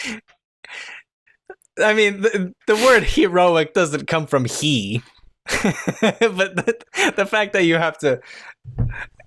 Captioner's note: laughter